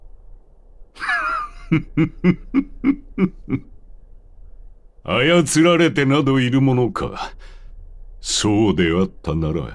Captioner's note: laughter